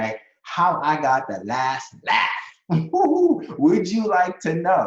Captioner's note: laughs